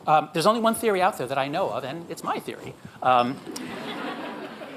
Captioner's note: audience laughs